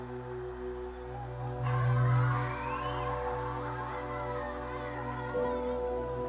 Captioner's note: children cheering